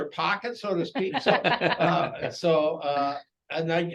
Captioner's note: laughter